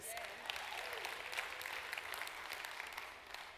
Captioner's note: applause